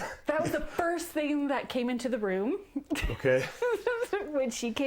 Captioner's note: laughing